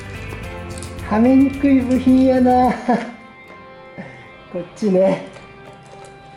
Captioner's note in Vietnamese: cười